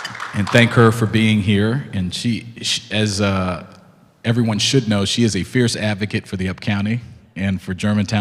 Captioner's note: clapping